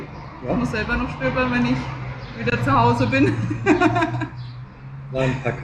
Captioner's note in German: gelächter